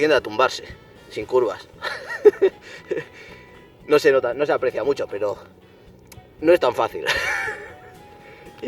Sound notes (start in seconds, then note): 1.7 laughs